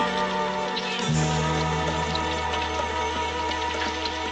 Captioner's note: تصفيق